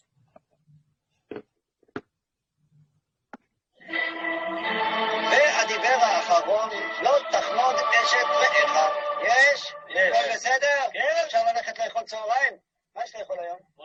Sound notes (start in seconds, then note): 3.8 bouncy music; 5.4 speaking in a foreign language